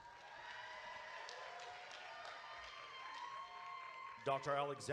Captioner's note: audience cheering